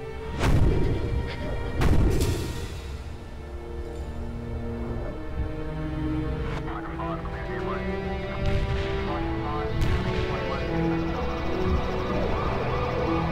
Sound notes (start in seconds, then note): 6.5 radio chatter; 10.3 sirens